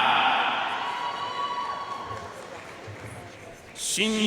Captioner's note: audience cheering and applauding